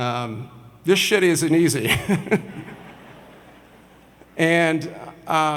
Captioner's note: audience laughs